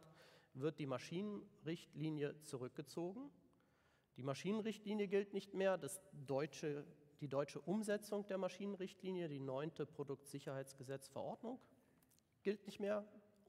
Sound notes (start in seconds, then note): 10.2 German